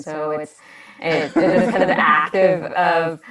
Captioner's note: laughs